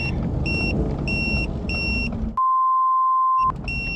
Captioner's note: beeping